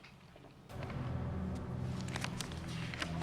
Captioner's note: shuffles papers